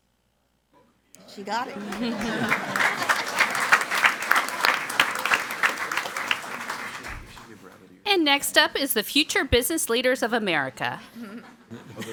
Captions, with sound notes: She got it. (crowd clapping and laughing) And next up is the Future Business Leaders of America.